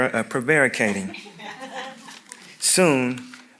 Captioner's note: audience members chuckling